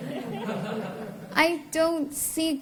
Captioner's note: laughter